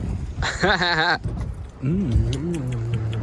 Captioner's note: laughing